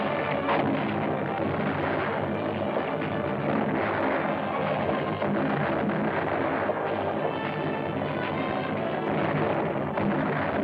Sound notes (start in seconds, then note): 3.5 explosions